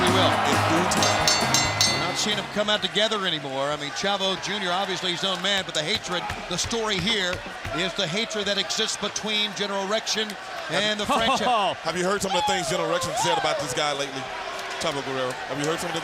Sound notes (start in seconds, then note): 2.6 bell ringing